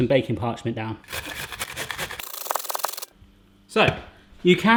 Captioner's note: metal scraping